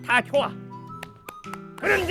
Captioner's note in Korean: 박수